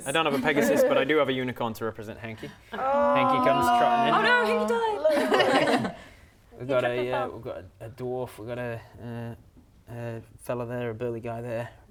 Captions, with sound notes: have a pegasus but I do have a unicorn to represent Hanky Hanky comes trotting in - Lulu! Oh no he died! *laughing* - Lulu We've got a dwarf, we've got a fella there, a burly guy there